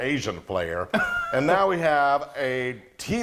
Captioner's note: laughing